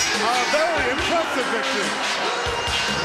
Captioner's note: bell ringing